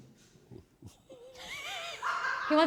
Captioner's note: giggling